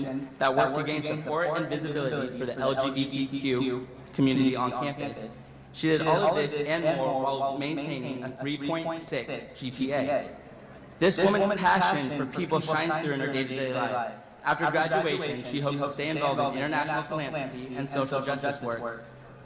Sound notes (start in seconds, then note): none